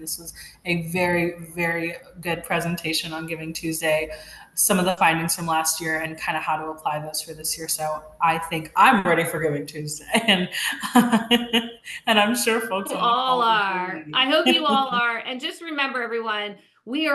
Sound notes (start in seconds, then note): 12.2 laughs